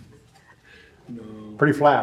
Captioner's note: laughs